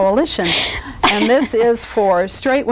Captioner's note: laughs